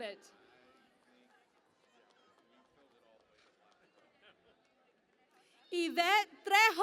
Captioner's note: cheering and Applause